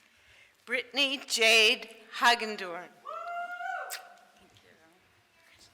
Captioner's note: small group cheers